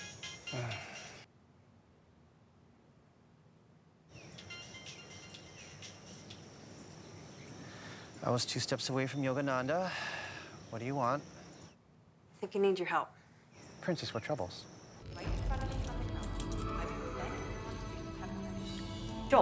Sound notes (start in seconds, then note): 0.5 Joel sighs; 4.3 phone ringing; 9.9 sighs; 15.3 Robin muttering; 15.3 boots creaking